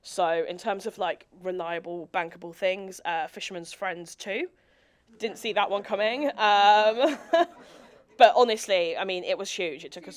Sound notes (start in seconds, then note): 6.7 laughs; 7.1 audience laughing